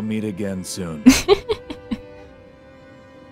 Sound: laughing

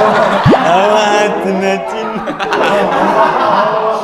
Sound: laughing out loud

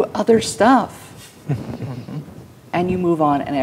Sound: chuckling

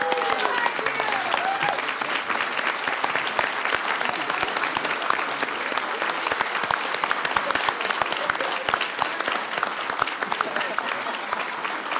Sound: applause

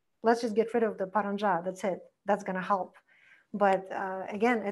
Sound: foreign language

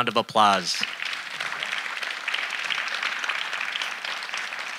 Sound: audience applauding

